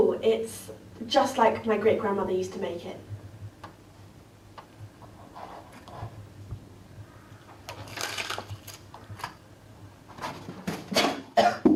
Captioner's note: coughing